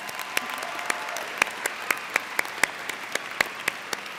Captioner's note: audience cheers